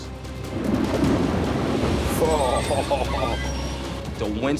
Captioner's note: thunder booming